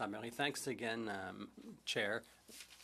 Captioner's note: speaking in French